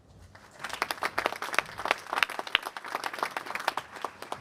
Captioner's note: applause